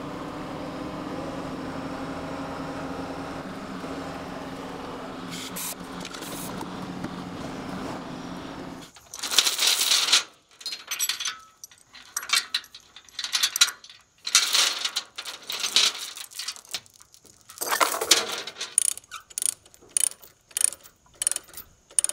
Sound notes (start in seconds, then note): 9.5 chains clattering; 19.3 lever cranking